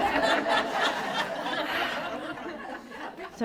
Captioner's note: laughter